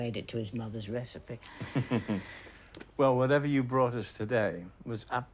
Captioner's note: chuckling